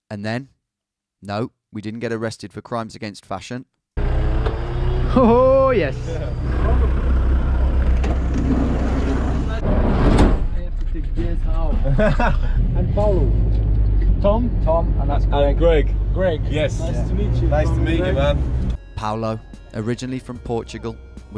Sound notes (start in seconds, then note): 11.6 laughing